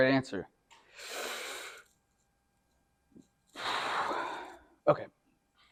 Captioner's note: deep inhale